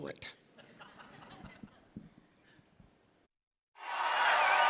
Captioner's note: audience laughs; audience cheers and claps